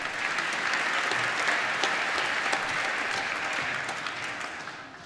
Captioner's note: applause